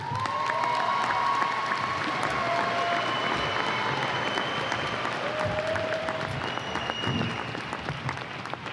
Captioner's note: applause and cheers